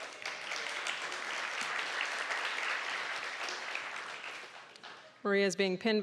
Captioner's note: applause